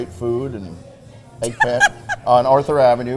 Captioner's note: Mrs. Claus laughing